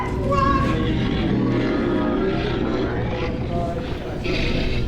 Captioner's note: creature roaring